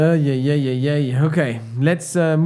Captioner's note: laughs